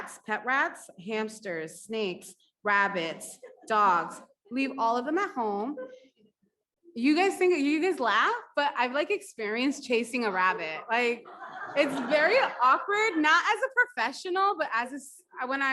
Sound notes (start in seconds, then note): 6.9 woman laughs; 11.1 audience laughs